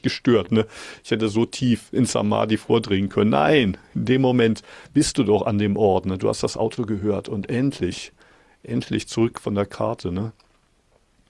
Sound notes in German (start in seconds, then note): none